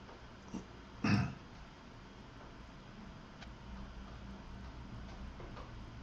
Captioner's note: Eckhart clears his throat